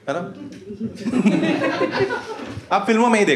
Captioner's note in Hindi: हँसना